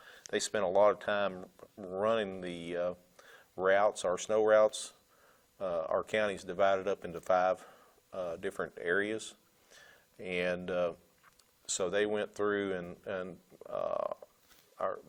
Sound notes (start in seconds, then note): none